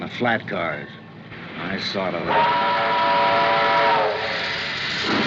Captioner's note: whistle Blowing